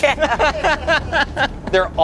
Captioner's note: everyone laughs